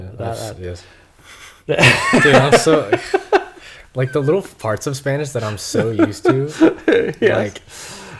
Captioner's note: laughter